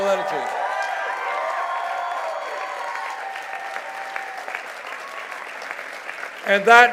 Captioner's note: cheers and applause